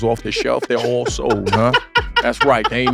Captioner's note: laugh